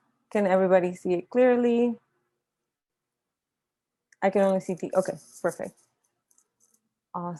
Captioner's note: pause